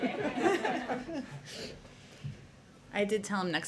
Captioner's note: laughter